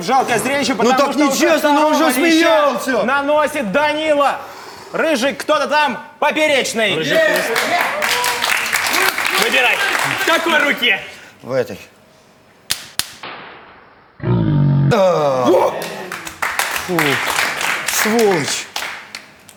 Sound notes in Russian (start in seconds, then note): 7.1 Аплодисменты; 12.7 Звук пощечины